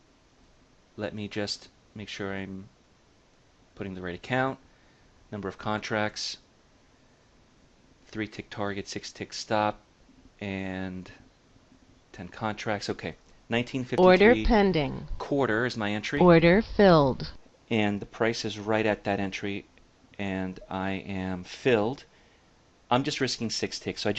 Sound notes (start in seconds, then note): 14.0 order pending sound plays; 16.2 order filled sound plays